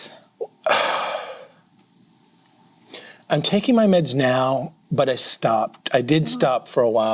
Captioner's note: sighs